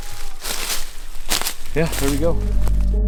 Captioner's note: leaves rustling